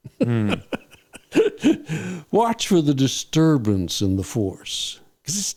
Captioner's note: laughing